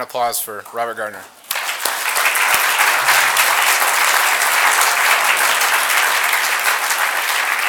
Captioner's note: applause